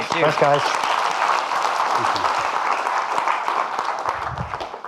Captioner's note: audience clapping